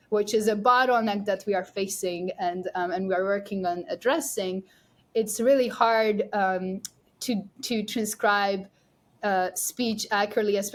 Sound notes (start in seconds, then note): none